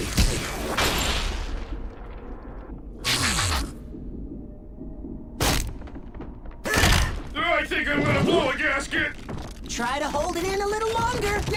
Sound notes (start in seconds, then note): 5.9 bumblebee exclaims; 11.3 rumbling